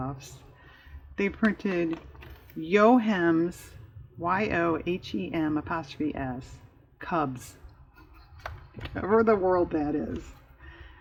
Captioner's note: laughs